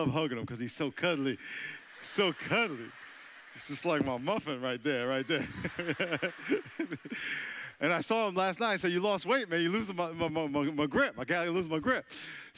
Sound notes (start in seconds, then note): 3.7 audience chuckling; 5.2 laughing; 7.1 audience laughing